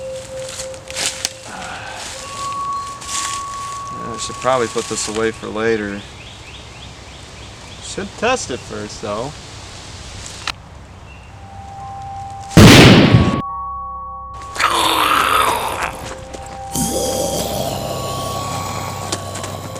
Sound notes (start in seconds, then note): 1.5 whispers; 12.6 gun Shot; 14.6 zombies Groaning